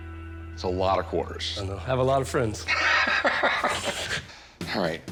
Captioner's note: laughs